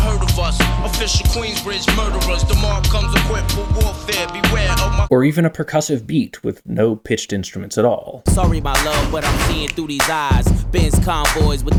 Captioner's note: bang